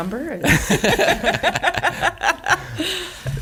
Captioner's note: laughing